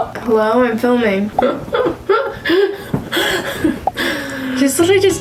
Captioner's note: laughing